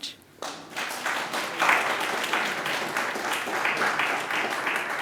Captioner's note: applause